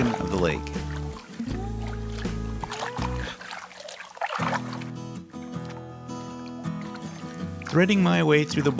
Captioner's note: paddling sounds